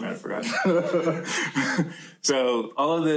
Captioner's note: laughter